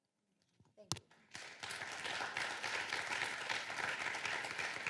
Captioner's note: applause